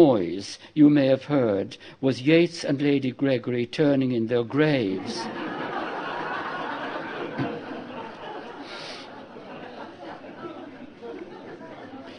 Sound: laughter

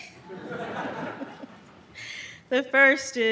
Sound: audience laughs

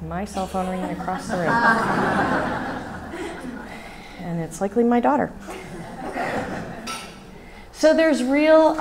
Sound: laughs from audience

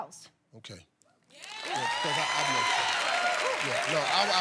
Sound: cheers and applause

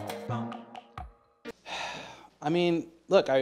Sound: sigh

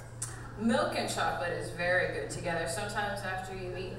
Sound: voiceover

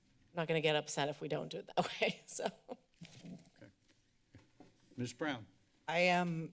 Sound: laughter

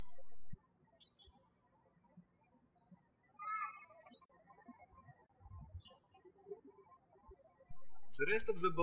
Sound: birds chirping

